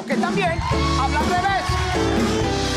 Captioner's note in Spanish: Ovación